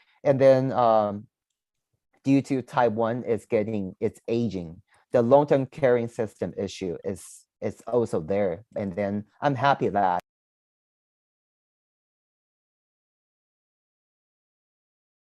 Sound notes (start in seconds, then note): 11.2 audio cuts out